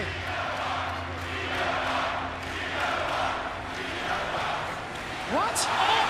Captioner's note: crowd cheering